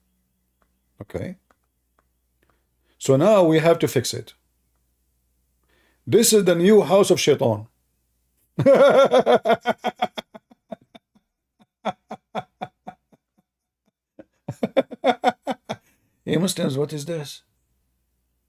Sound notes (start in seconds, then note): 8.5 Ketawa